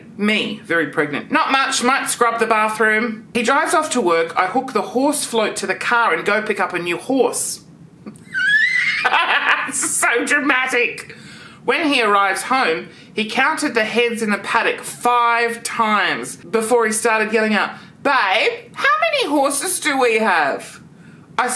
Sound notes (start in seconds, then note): 8.1 laughs